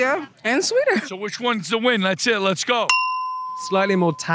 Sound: ding

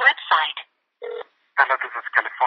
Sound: telephone ring

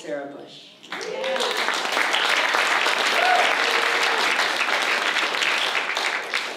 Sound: applause

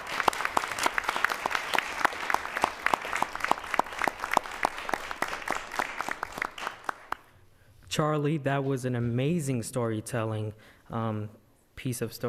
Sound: applause

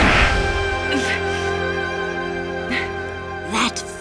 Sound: sighing

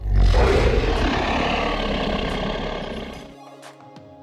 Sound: dinosaur roars

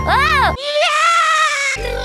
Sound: Luigi screaming

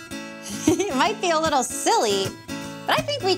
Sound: giggles

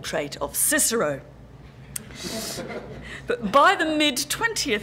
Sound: laugh

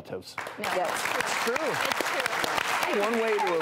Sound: all applaud

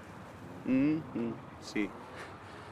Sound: murmuring

